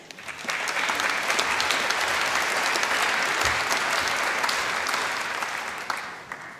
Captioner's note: applause